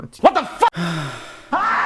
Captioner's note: sighs